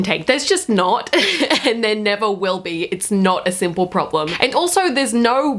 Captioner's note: laughs darkly